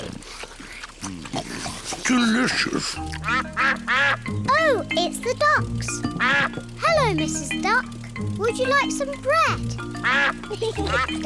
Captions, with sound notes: -Delicious! -(DUCKS QUACK) Oh, it's the ducks! Hello, Mrs. Duck. -Would you like some bread? -(DUCKS QUACK)